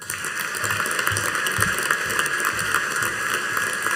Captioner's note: audience applauding